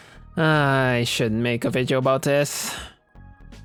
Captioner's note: sigh